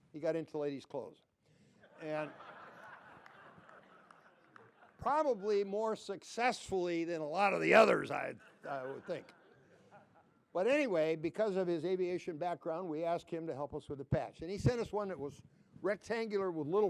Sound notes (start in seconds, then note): 1.8 laughter